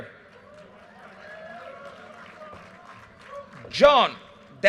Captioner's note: audience cheers and applause